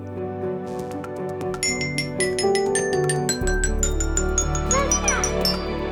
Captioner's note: bell ringing